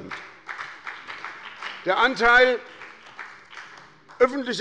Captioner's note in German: Beifall bei der SPD und der FDP